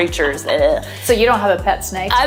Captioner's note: disgusted sound